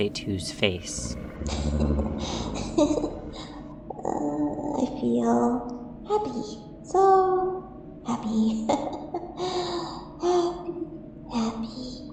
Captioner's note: deep chuckling; laughs